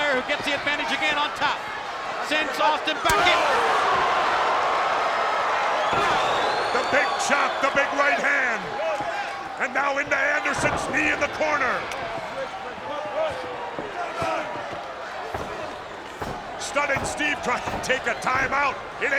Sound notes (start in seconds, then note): 4.2 spectators cheering; 12.5 spectators cheering; 15.3 Arn stomping